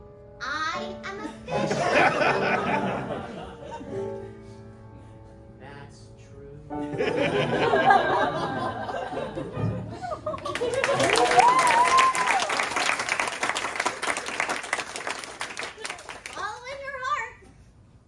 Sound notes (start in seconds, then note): 1.5 laughter; 6.8 laughter; 10.4 applause